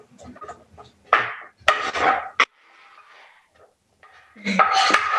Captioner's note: spoon thudding